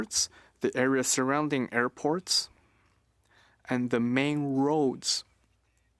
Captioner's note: speaking French